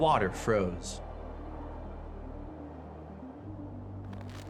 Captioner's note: wind howling